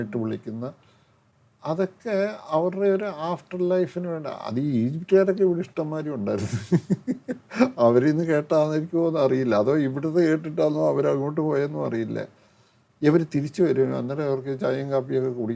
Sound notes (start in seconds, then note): 6.3 laughs